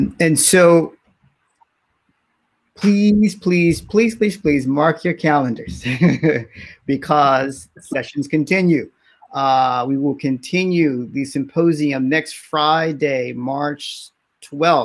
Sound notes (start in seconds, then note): 5.6 laughs